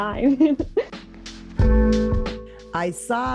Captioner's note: laughing